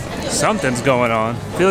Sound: woman talking over a loudspeaker

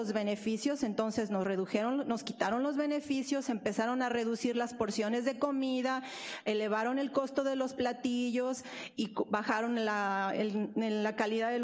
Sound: speaking spanish

